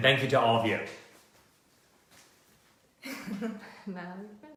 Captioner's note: laughter